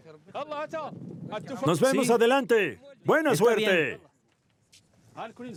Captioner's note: Arabic spoken audio